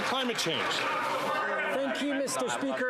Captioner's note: some Applause